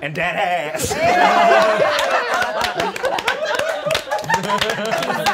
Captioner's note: all applauding